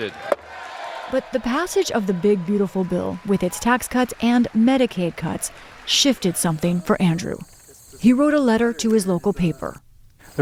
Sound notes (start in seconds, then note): 1.1 cheering